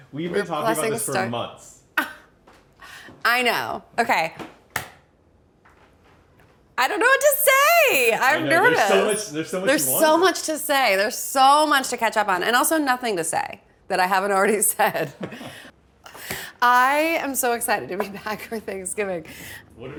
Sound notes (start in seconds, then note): 14.9 chuckle